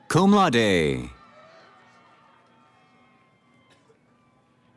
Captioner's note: cheering